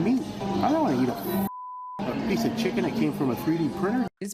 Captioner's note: beep